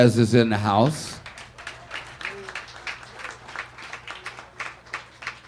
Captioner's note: audience applauding